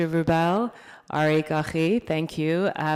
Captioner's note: speaking foreign language